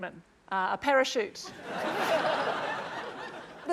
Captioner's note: laughter